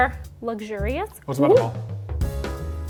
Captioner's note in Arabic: يتمتم; موسيقى جاز مبهجة